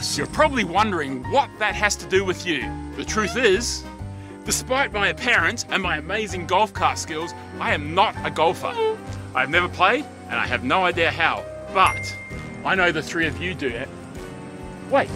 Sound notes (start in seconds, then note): 11.8 ding!